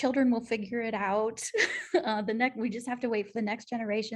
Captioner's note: laughter